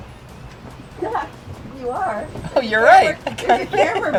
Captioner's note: laughs